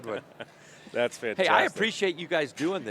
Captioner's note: laughter